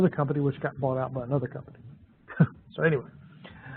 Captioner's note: laughs